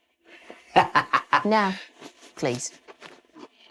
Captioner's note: laughs